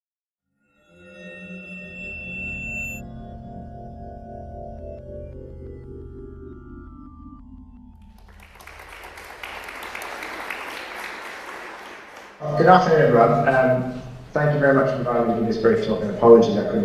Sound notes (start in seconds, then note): 0.0 drone-like music; 8.0 applause